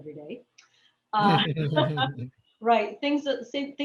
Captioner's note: laughs